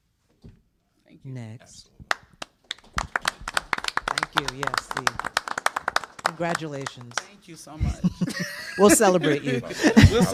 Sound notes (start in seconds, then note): 2.0 applause; 7.7 laughter